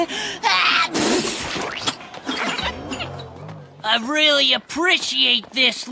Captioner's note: sneezing